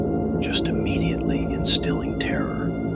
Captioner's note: whispers